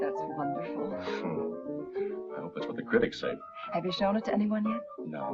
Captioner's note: laughs